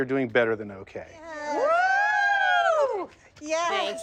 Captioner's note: group cheers